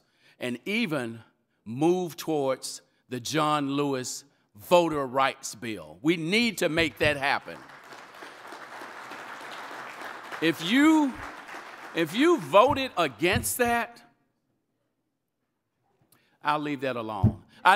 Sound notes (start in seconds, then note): 6.9 audience applauding